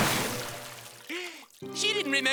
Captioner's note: gasping